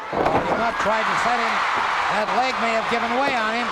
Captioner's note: crowd cheers